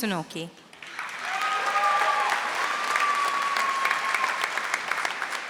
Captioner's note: audience applauding